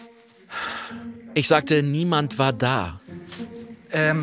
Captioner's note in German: seufzend